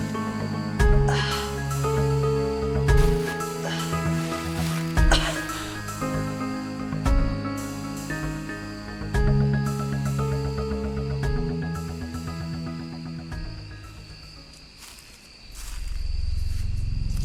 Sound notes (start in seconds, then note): 5.0 Connie coughs and gasps; 14.3 footsteps approaching